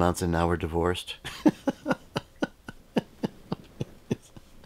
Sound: laughs

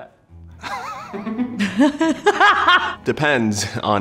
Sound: laughing

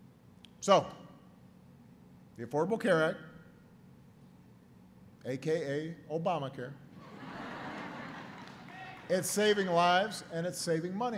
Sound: laughter

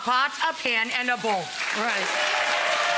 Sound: audience cheering

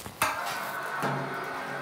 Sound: whirring

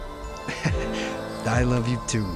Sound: Toshi chuckling

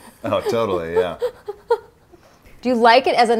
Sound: laughing

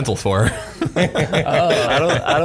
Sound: laughing

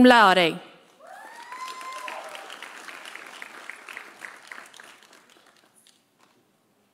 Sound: audience cheering; audience applauding

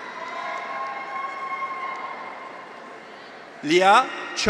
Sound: graduates cheer; audience applauds

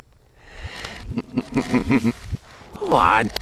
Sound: random laugh

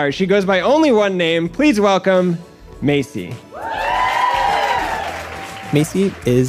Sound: applause

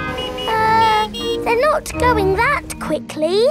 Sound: horns honking

